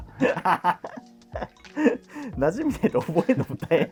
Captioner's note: laughing